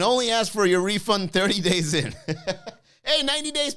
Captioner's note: laughs